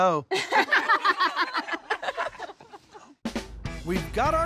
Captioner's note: laughter